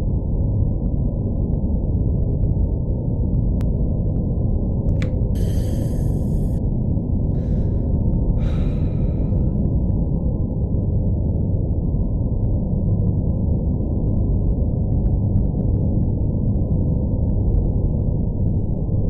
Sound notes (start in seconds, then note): 7.2 unrestrained breath of freedom